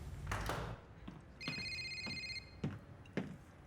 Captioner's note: phone rings